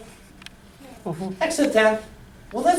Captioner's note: voiceover